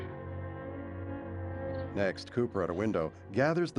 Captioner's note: crickets chirping